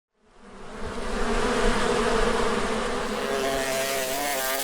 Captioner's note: bees buzzing